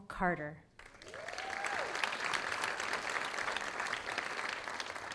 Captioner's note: audience applauding